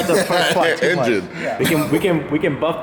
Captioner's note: laughter